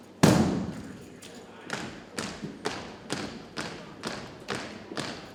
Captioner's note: cadets thump rhythmically